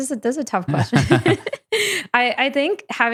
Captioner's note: both laughing